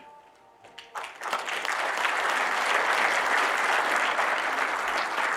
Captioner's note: audience applauding